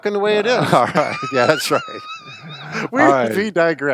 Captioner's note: both laugh